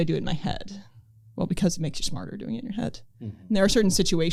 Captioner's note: hmm